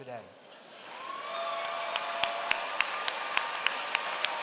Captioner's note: applause